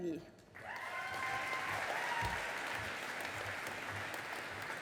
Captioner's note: audience applauding